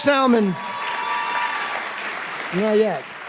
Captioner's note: applause